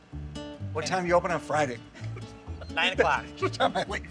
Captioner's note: laughs